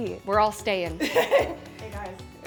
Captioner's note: laughing